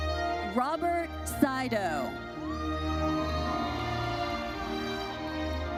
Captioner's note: audience cheers